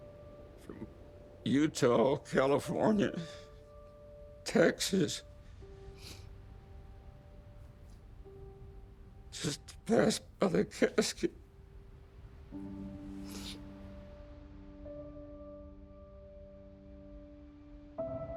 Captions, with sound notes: from Utah, California, Texas... [sniffles] [voice breaking] Just to pass by the casket.